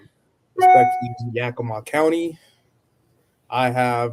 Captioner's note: bell chiming drowns out speaker